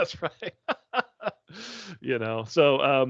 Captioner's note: laughing